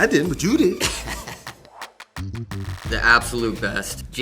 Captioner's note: laughing